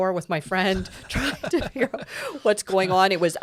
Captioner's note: both laughing